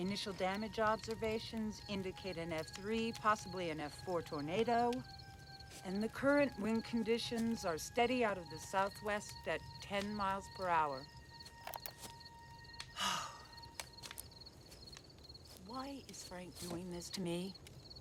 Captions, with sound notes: Initial damage observations indicate an F3, possibly an F4 tornado. And the current wind conditions are steady out of the southwest at 10 miles per hour. (sighs) Why is Frank doing this to me?